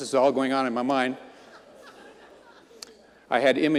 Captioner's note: audience laughing